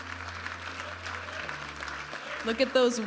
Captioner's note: audience applauding and cheering; vibrant music